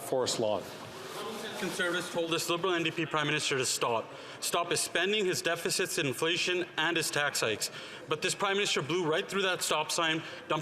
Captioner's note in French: voix de l'interprète